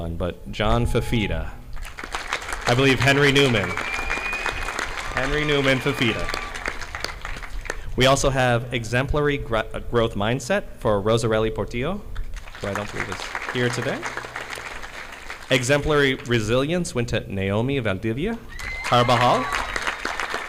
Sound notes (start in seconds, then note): 1.7 audience applauding; 1.7 audience clapping; 14.5 audience clapping; 20.2 audience applauding